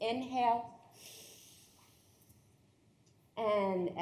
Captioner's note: everyone inhaling